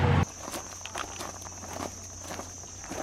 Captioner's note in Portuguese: som de insetos